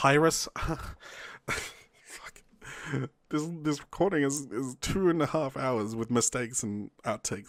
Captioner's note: exhausted chuckle